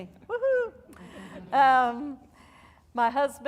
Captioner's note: audience laughing